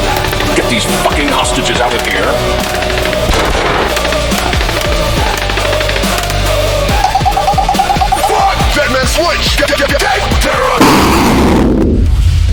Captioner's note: sound of flatline heartbeat